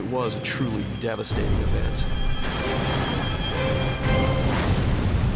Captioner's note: explosions